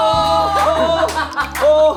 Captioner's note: laughs